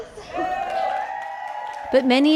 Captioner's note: cheering